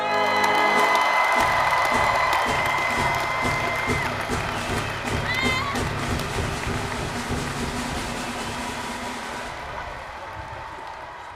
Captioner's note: applause, cheering